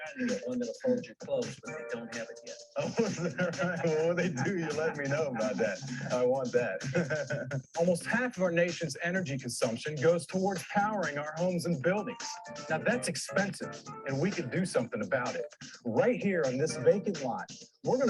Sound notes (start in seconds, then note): 7.2 laughing